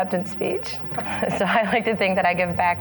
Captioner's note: laughing